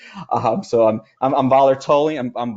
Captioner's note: chuckles